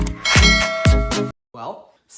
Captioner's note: bell dinging